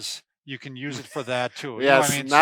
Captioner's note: laughs